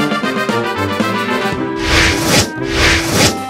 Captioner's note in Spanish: ruidos de giro